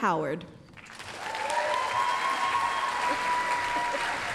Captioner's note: applause, cheering